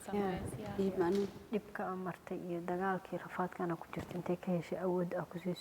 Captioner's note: speaking foreign language